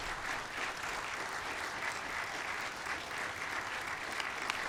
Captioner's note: applause